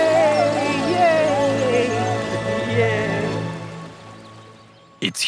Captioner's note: and animals cheer